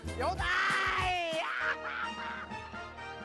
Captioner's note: laughing